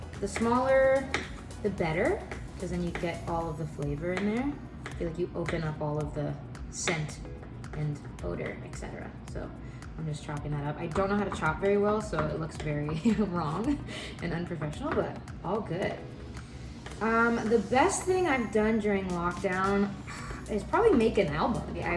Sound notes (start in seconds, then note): 12.9 laughs